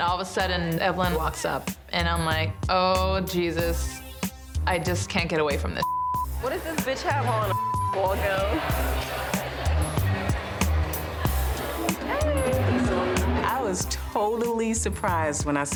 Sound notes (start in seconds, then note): 5.8 beep; 7.4 beep; 10.1 upbeat music plays